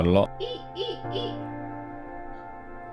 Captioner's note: monkey noises